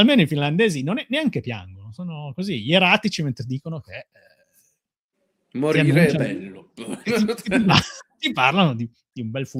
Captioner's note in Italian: risate